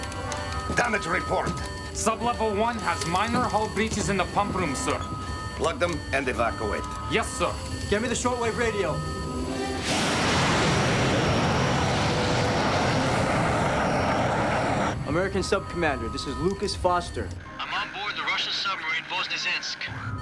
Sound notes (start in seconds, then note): 13.0 aircraft noise